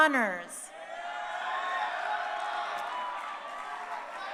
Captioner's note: crowd cheering